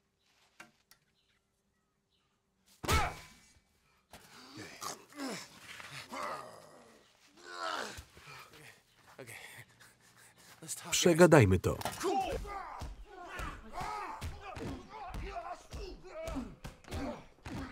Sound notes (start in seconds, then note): 6.0 groaning; 11.6 grunting; 11.8 punches landing